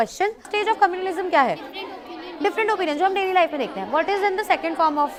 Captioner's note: speaks in foreign language